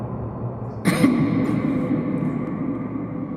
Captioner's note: cough